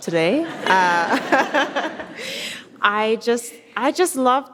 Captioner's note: audience laughs